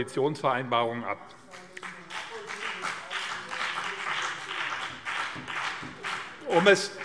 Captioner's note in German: Beifall BÜNDNIS 90/DIE GRÜNEN